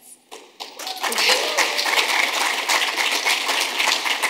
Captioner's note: audience applauding